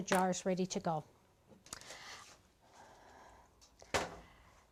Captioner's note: clank